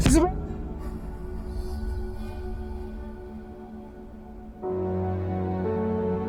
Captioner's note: thudding; dramatic music